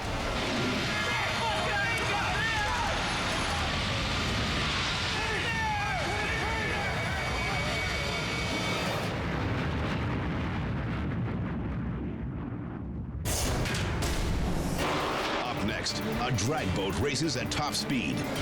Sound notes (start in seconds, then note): 0.4 firefighters yelling; 9.3 explosion reverberates